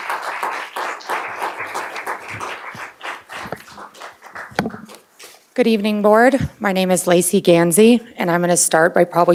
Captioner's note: applause